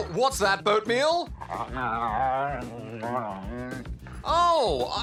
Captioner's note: grunts